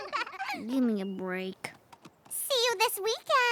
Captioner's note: both laugh